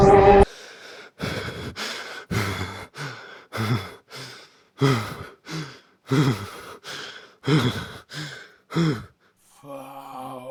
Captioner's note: Music cuts as Edwin lets out panicked breaths